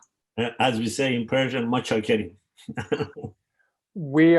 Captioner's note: speaking in foreign language